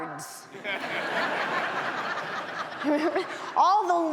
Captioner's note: audience laughs